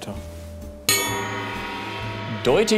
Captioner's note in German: Gongschlag